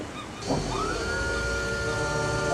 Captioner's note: foghorn blaring